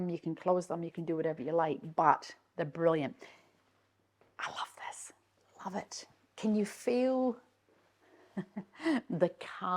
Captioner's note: chuckles